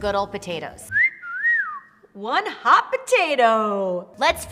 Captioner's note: whistles